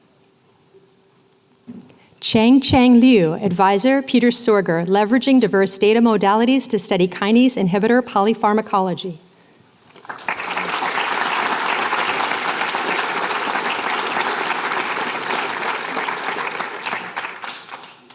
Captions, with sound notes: Changchang Liu. Advisor, Peter Sorger. Leveraging Diverse Data Modalities to Study Kinase Inhibitor Polypharmacology. [APPLAUSE]